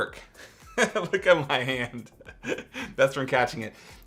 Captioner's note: laughs